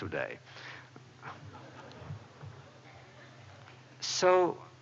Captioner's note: laughter